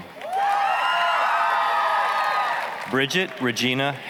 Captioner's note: applause, cheering